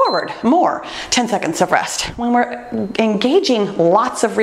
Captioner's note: timer beeps